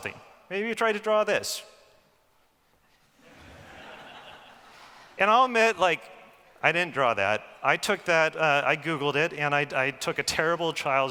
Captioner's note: laughing